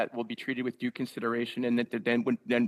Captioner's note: speaking French